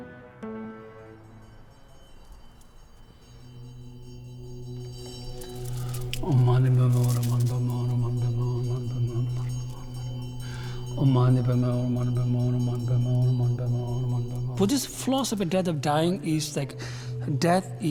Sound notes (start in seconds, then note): 2.2 bells ringing; 6.2 chanting